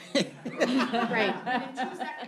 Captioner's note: laughter